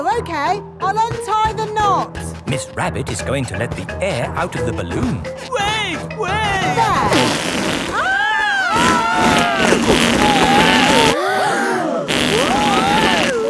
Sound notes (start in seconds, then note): 8.0 both screaming; 11.6 crowd gasps